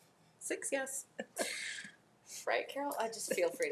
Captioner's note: laughs